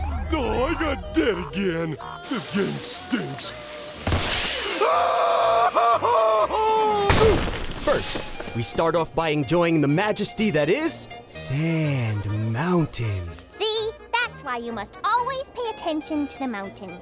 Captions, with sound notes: Oh, I got dead again. This game stinks. [screaming] First, we start off by enjoying the majesty that is... Sand Mountain. See? That's why you must always pay attention to the mountain.